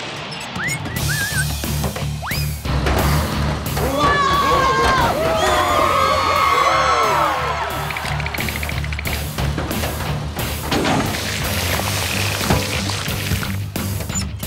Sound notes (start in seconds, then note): 3.8 cheering; 3.8 screaming